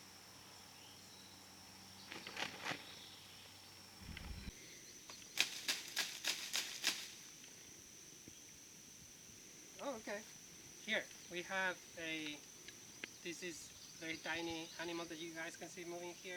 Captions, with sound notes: (more shaking tree branches) Oh, okay! Here. We have a, this is a tiny animal that you guys can see moving here,